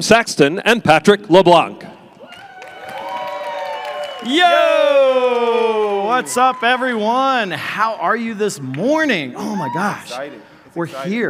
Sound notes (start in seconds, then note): 2.2 audience cheering